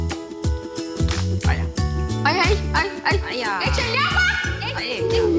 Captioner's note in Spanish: Exclamaciones